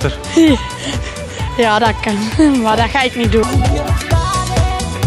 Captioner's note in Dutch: lacht